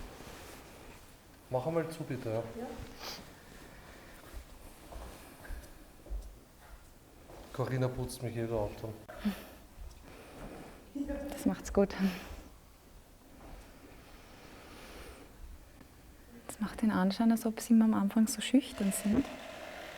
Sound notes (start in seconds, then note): 2.9 silence in the background